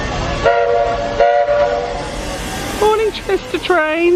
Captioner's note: train horn toots